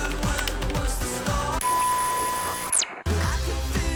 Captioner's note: static fuzzing